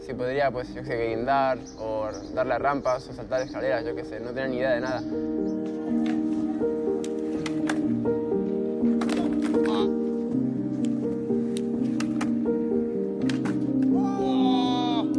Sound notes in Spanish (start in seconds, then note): 9.6 se queja; 13.8 grita